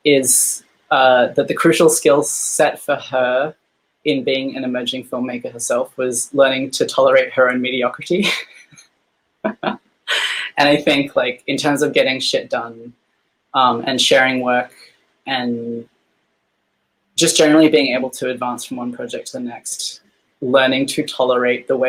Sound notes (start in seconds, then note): 9.4 laughing